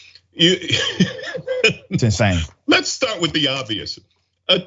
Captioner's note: laugh